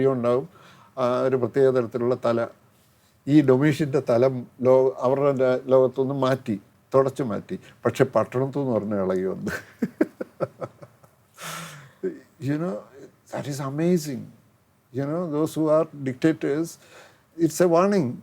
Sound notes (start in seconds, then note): 9.5 bursts into laughter; 11.4 sighs